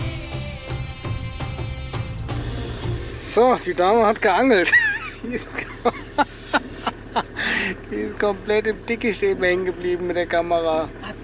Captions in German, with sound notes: So, die Dame hat geangelt. [gelächter] Die ist komplett im dickest eben häng geblieben mit der Kamera. hat